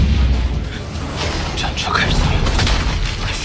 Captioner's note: the war chariot starts